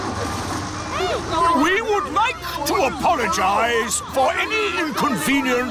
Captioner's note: all grumble